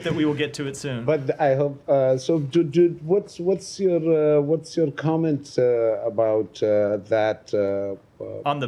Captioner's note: laughter